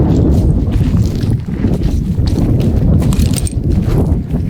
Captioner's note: gravel crunching; wind blowing